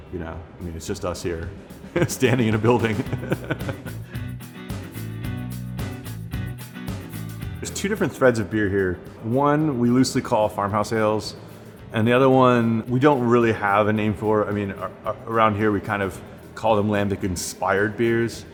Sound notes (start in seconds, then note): 2.0 laughs; 3.7 upbeat music